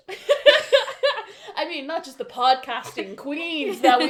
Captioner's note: laughter